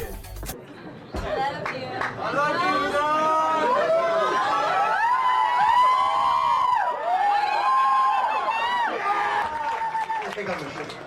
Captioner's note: cheers